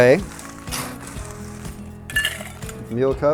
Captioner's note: ice clinks